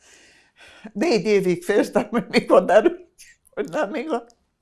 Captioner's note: laughing